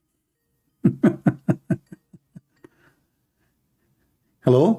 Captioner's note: Ketawa